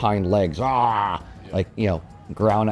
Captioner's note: mimics bear roar